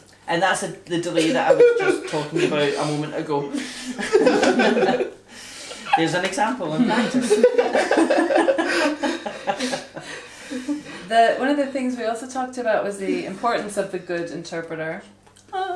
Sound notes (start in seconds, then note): 9.7 all laugh; 15.5 vocalises angelically